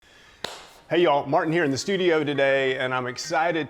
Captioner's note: claps